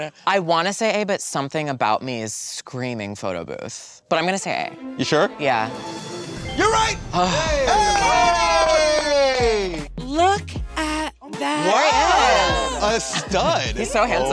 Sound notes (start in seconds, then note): 7.1 group cheers; 7.1 twinkling